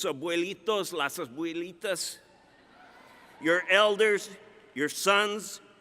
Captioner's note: speaking Spanish